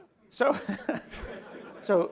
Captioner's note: laughter